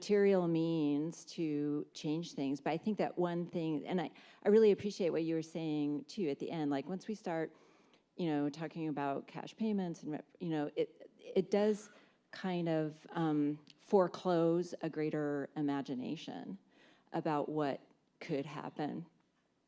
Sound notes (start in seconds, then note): none